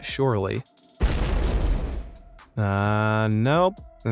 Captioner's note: ground explodes